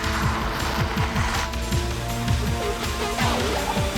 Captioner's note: upbeat suspenseful music; tires scraping